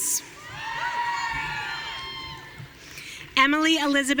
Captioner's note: audience cheering